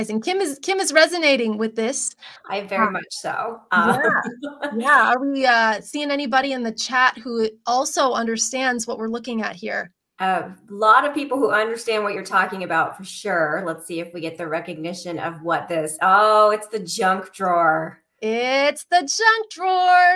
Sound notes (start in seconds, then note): 3.8 laughter